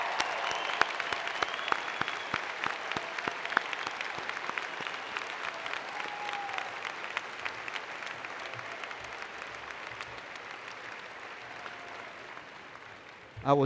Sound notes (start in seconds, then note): 0.0 cheers and Applause